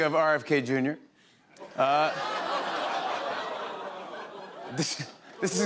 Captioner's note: laughter